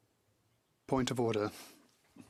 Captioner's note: speaking French